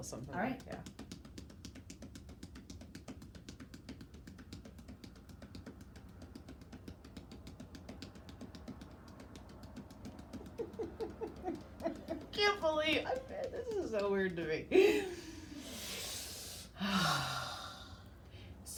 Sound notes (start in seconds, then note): 1.4 hands tapping; 10.3 laughs; 15.0 breathing deeply